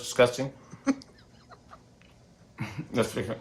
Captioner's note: chuckles